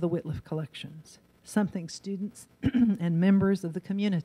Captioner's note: clears throat